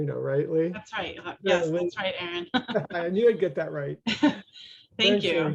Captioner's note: laughter